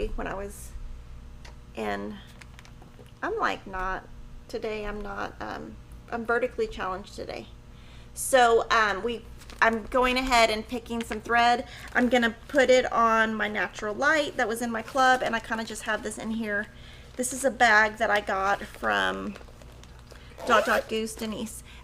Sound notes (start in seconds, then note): none